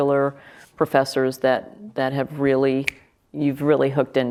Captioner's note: finger snap